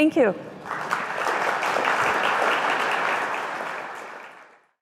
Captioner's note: applause